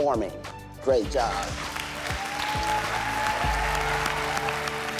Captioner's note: applause